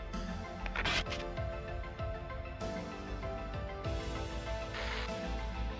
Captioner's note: energetic suspenseful music continues; radio static hissing; radio static hissing